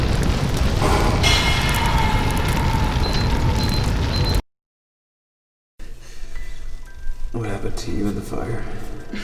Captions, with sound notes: [beeping] What happened to you the fire?